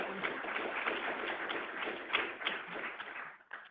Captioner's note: clapping